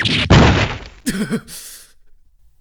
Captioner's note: grunts